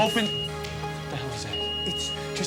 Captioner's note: beeping